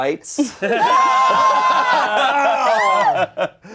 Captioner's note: everyone laughing